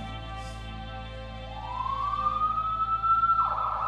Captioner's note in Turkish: Ambulans sireni çalıyor